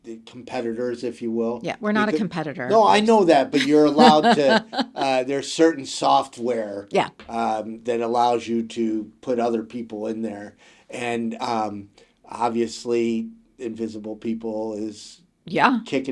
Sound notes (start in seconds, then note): 3.5 laughs